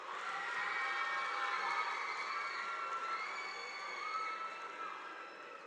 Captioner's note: audience applauding